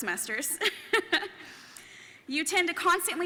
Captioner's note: laughing